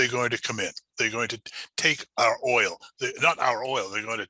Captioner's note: murmurs